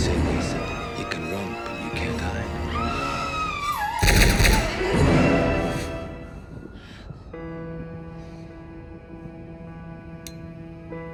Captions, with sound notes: - Like they say, Miss, "You can run, but you can't hide." (gun firing) (dramatic orchestral music)